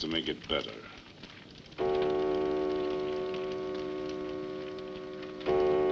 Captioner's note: clock chimes